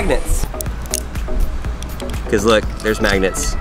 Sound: knife clicking on plastic

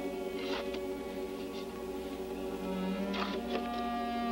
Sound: metal scraping

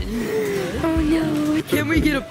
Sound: gasps

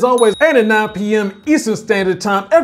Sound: bell chimes

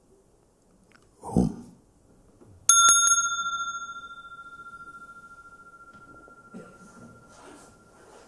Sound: rings the bell

